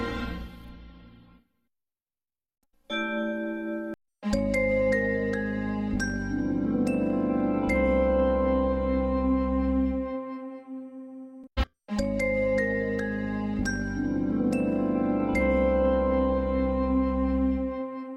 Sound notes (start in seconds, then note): 2.9 digitally-remastered chime plays; 2.9 chime plays on one note; 11.8 digitally-remastered chimes continuing